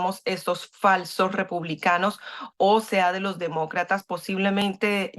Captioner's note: habla en ingés